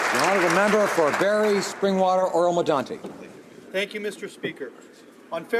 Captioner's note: applause